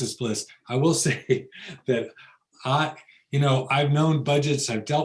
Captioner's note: laughs